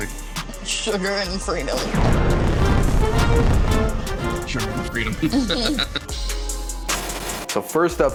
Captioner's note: laughs